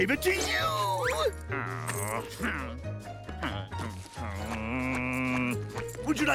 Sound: groaning

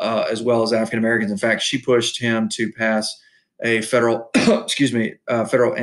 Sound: coughs

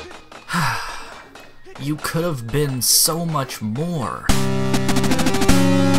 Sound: sigh

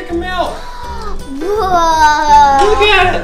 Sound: gasps

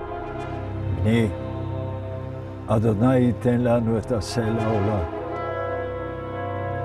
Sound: speaking in Hebrew

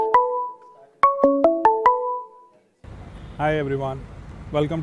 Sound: ringing

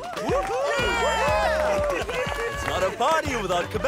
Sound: cheering

